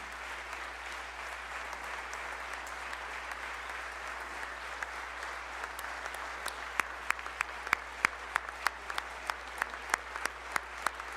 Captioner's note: applause